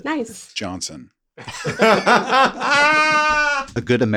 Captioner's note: everybody laughs